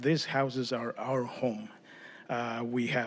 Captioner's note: speaking spanish